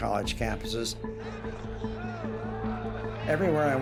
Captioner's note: crowd chattering indistinctly